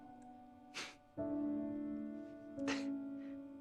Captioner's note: sniffs